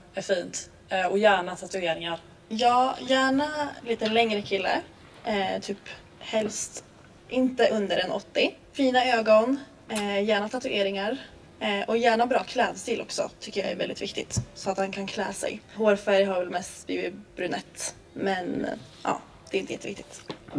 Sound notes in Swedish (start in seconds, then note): none